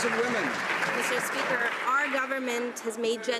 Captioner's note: some Applause